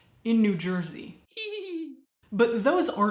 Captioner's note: laughing